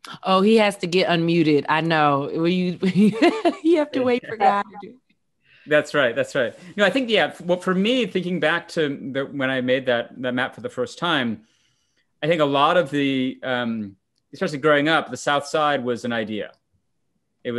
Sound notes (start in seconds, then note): 2.9 laughs